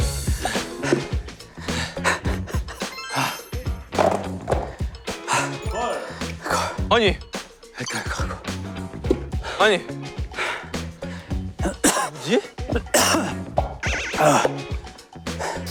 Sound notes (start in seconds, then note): 10.3 pant, pant; 11.6 cough